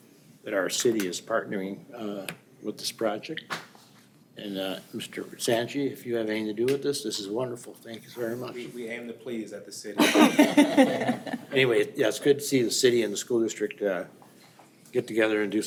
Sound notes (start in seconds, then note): 10.0 group laughing